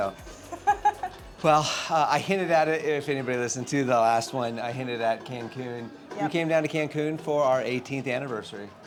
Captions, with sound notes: (laughing) Well, I hinted at it, if anybody listened to the last one, I hinted at Cancun. We came down to Cancun for our 18th anniversary.